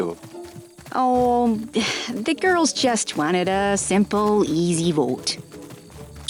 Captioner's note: sighs